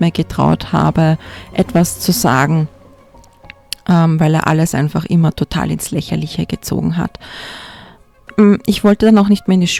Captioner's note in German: japst